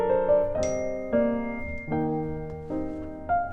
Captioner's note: cell phone chimes